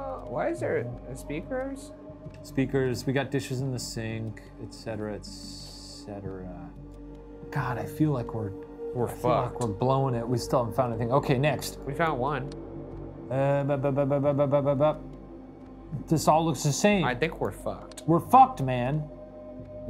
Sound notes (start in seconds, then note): 13.2 stammers